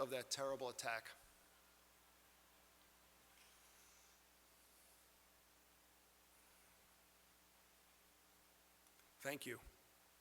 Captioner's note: moment of silence